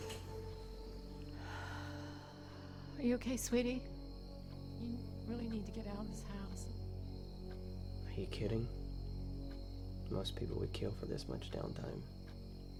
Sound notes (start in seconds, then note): 0.0 blinds clattering; 1.3 sighs